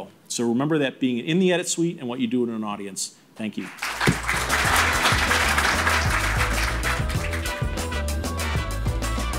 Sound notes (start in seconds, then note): 3.6 audience applauds; 6.1 upbeat music